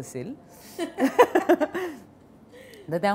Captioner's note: Both chuckle